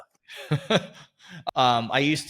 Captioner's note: Eric chuckles